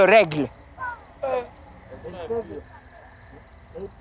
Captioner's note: crowd in shock